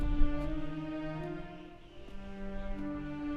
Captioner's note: wind blows; suspense music